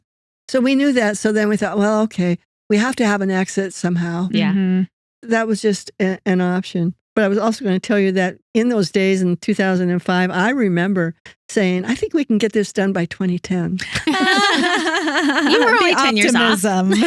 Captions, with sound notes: So we knew that, so then we thought, well, okay, we have to have an exit somehow. Yeah. That was just an option. But I was also gonna tell you that in those days in 2005, I remember saying, I think we can get this done by 2010. (Laughing) You were only 10 years off.